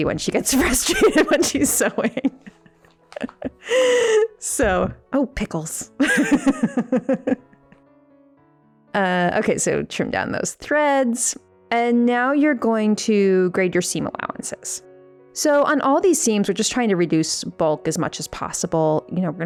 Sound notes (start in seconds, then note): 2.3 laughing; 6.0 laughing